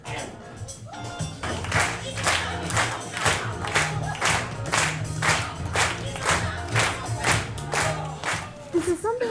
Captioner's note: dancing and clapping